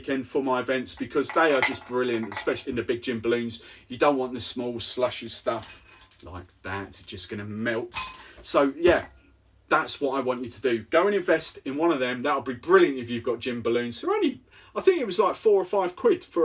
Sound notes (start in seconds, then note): 8.1 ice clinking